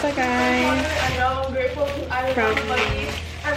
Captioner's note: yelling in the background; continuing to yell